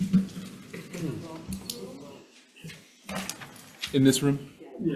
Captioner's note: indistinct conversation